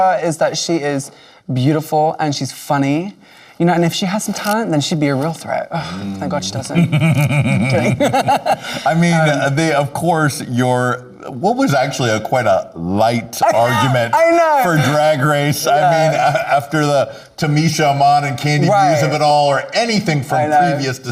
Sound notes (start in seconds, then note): 6.5 Lady Camden laughing; 6.7 laughing